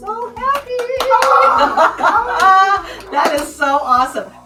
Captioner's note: all cheering